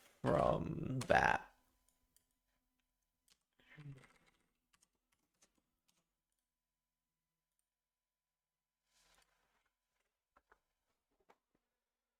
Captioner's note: silence